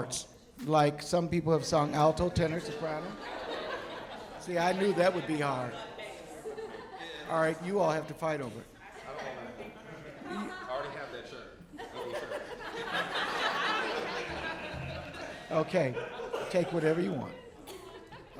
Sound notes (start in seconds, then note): 13.5 audience laughing